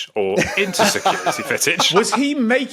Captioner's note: laugh